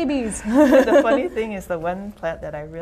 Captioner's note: laughter